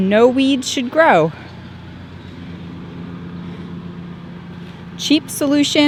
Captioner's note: lawn mower engine roars